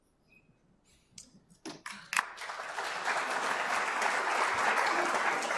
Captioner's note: applause